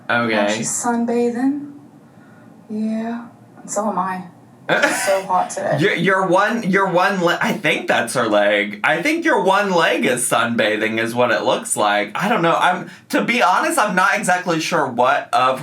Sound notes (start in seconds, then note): 4.7 laughs